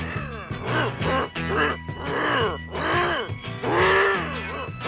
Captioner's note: grunting